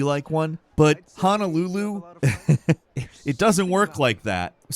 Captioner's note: chuckling